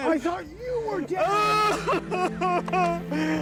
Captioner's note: laughter